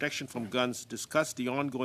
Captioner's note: speaking French